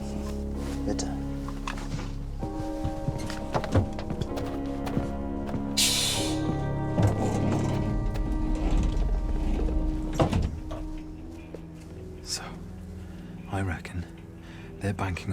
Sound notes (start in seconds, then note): 10.1 door clicks